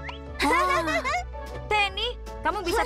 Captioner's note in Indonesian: Pinkfong tertawa